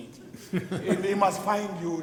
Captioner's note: people laugh